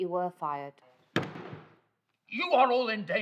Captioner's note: professor's hand slams